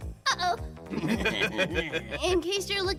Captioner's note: evil giggling